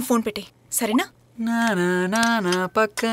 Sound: humming

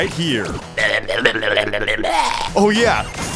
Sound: croaky babbling

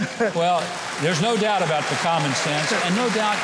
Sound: audience clapping

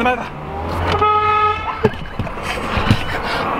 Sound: car horn beeps; laughs

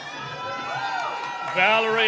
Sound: cheering

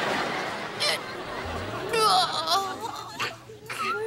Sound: groaning

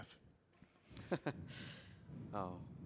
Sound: chuckles

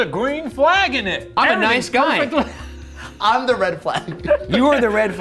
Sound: laughs

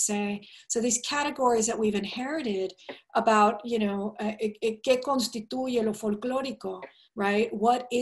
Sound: spanish

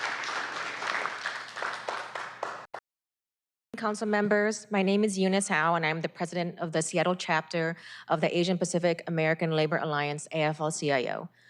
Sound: applause

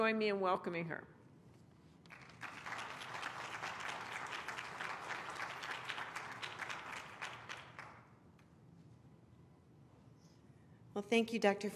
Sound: applause

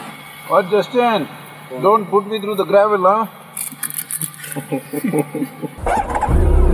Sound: laughter

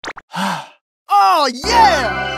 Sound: gasp

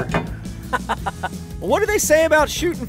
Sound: laughing

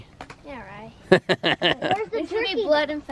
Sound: laughing

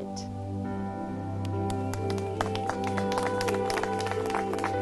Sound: applause

